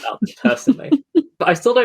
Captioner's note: laughs